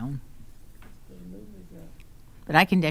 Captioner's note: speaking quietly